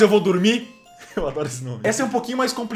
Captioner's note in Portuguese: risos